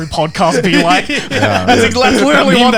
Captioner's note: laughing